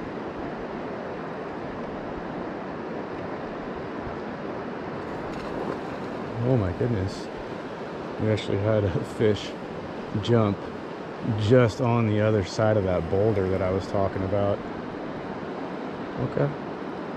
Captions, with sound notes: [Fish Splashing] Oh my goodness We actually had a fish jump just on the other side of that boulder that i was talking about OK